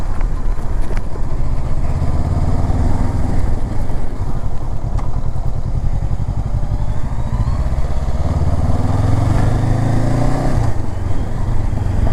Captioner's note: engine thrum